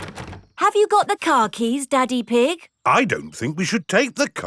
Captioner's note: door rattles